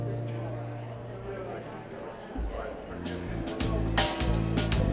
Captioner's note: crowd chatter